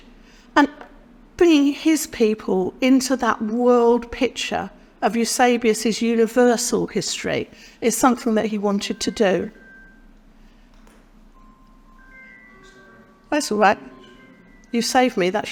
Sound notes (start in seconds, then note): 13.1 phone sounds in the room